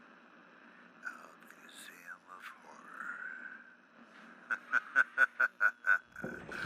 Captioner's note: laughs